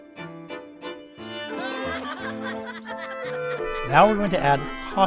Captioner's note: upbeat music; people laughing